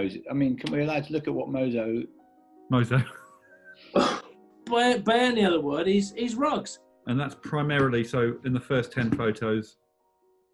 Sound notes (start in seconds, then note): 3.2 laughing